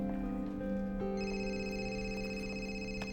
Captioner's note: cell phone rings